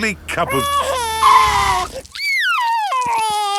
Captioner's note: tires screeching; crying